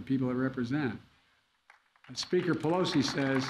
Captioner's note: applause